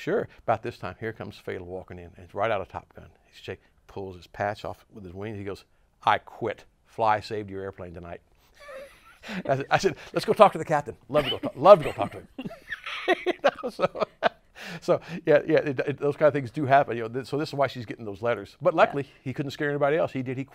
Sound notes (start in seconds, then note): 13.7 laughs